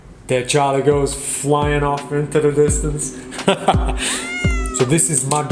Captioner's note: laughs